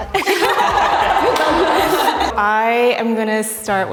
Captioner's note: all laugh